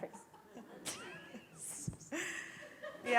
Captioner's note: laughter